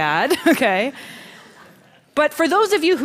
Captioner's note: Laughter; 笑聲